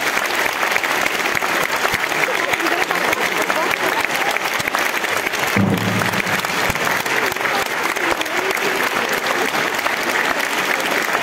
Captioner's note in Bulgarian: аплодисменти